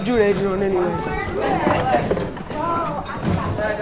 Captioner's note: bell rings; crowd ramblings